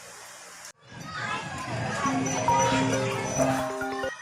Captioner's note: phone ringing